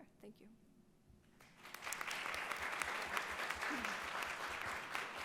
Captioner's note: audience applauds